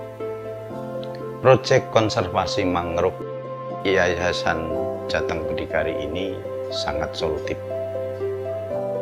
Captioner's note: speaking Indonesian